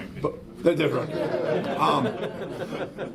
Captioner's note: laughs